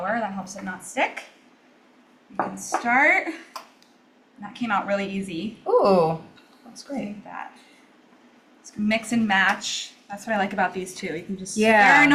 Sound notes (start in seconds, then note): none